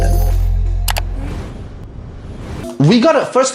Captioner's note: click